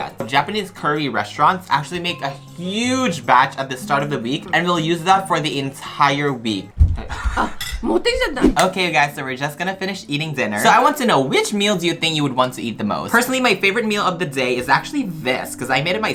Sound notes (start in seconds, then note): 8.2 mother speaking Japanese